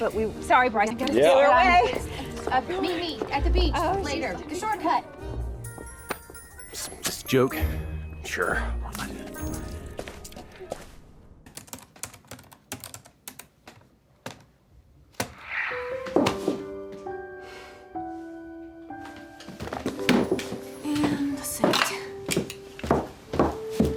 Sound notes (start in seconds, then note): 11.5 typing; 16.2 dropping hands, sighs heavily